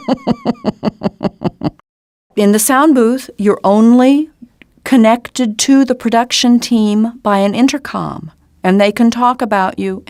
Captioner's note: laughter